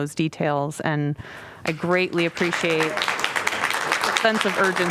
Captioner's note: applause